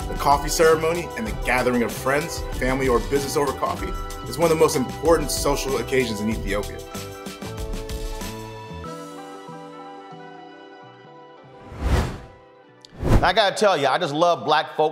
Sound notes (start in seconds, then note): 7.4 loFi music; 11.6 whooshes